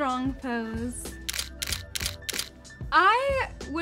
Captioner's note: camera shutter sounding